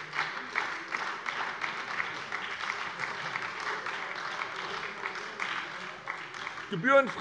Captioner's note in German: Beifall bei der SPD